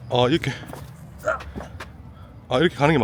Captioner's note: grunts with effort!